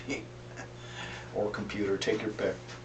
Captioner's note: laughter